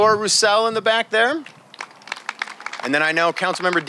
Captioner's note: applause